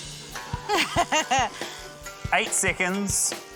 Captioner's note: laughs